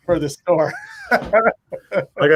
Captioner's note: both laughing